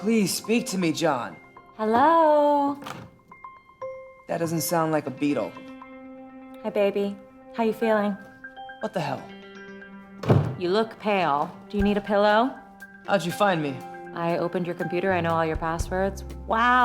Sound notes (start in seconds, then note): 2.0 voice from outside; 2.8 door opening; 4.4 organ music; 10.2 door closing